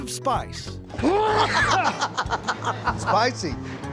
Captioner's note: laughter